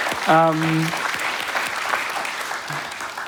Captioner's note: applause